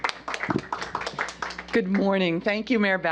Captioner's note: applause